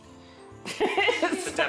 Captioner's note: laughs